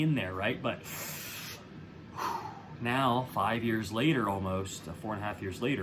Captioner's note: inhaling